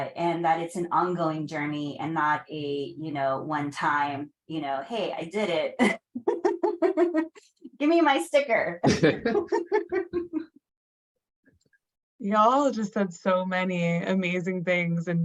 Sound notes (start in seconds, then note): 6.0 laughs; 8.8 laughter